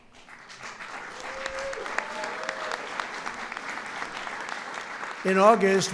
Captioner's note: applause